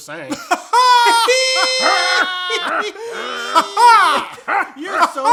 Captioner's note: all laughing except Cowboys